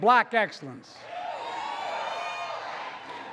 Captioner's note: applause